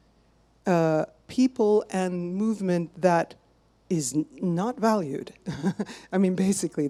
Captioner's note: chuckles